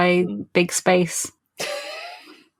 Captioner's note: laughs